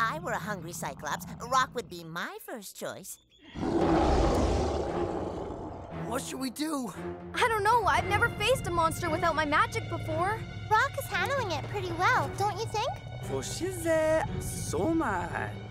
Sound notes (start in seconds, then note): 3.5 roaring